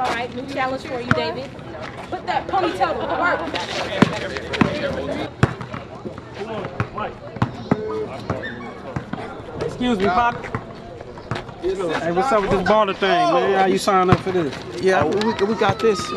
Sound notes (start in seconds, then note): 0.0 crowd chatting; 5.3 basketball bouncing